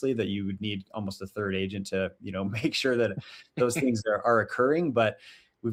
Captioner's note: chuckles